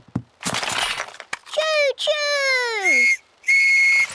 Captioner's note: blasts on whistle